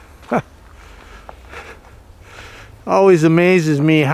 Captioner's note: panting